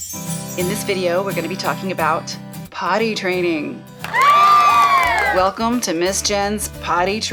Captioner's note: cheers